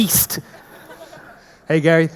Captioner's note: audience laughing